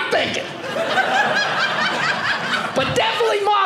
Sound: audience laughing

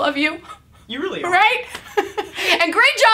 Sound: laughs

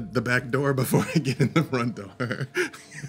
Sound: laughs

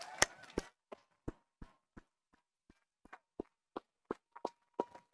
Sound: audience applauding

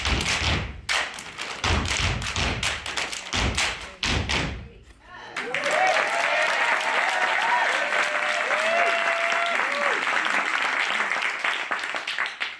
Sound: applause

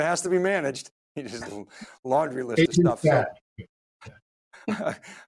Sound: laughs

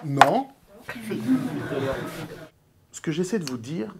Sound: laughs

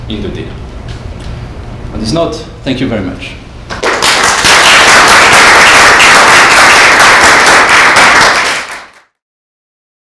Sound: applause

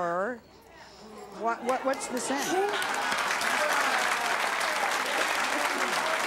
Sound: applause

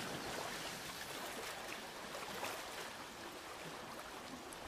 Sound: water splashing

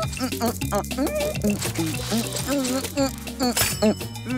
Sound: humming

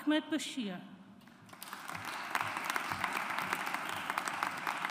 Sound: audience applauds

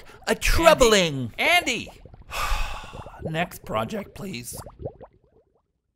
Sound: sigh

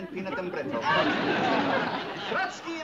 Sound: laughing

